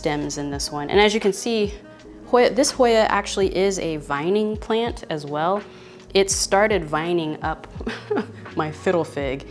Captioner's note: laughs